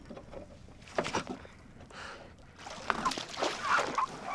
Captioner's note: gasping